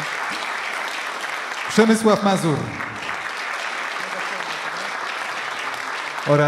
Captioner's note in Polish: oklaski; oklaski